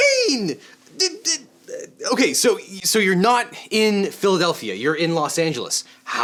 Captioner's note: stammering